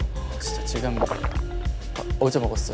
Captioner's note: gulp